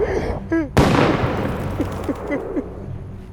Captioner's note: distant gunshot